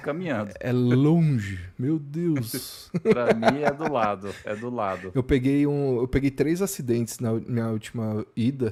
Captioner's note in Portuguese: risadas